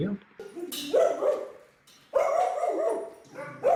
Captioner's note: dogs barking